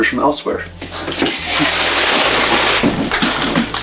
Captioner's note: plastic rustling; feet thudding